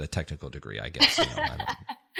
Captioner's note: laugh